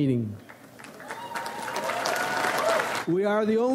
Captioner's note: audience applauds